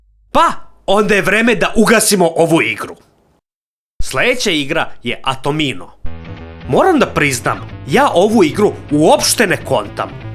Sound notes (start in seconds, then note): none